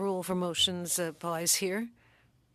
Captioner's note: speaking French